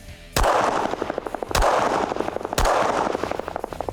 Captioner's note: fires gun